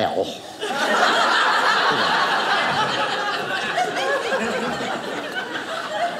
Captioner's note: audience laughing